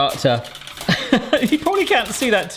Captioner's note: laughs